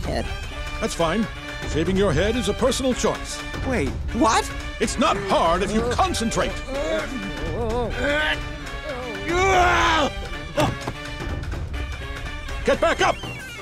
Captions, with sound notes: That's fine. Shaving your head is a personal choice. Wait, what? It's not hard if you concentrate! [groaning] [shouts] Get back up!